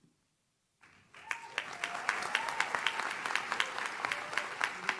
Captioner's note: audience claps